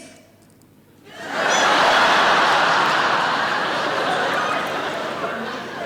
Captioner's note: audience laughing